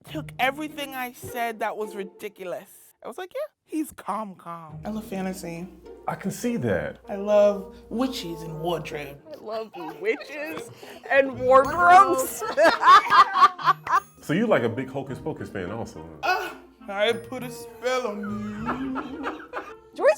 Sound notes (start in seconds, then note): 12.0 laughing; 18.0 laughing